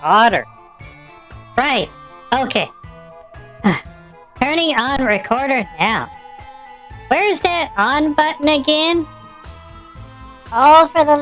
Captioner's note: exhales loudly